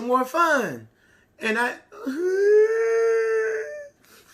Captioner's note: crying